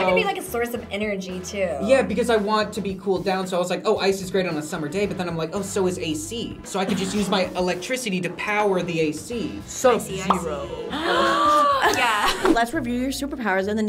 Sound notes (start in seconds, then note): 10.4 React gasps; 10.6 laughs